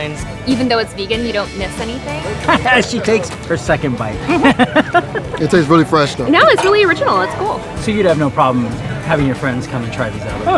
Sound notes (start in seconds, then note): 4.1 laughing